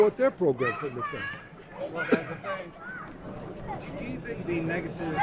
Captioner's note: voiceover